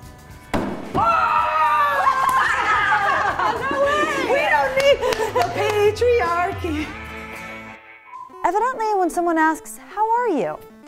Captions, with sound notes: - Oh! - Oh! [Laughing] - No way! - We don't need the patriarchy. - Evidently, when someone asks, "How are you?"